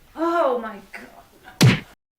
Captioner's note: cartoon punch sound effect